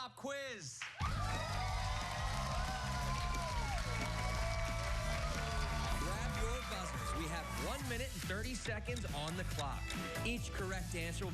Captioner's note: cheers and applause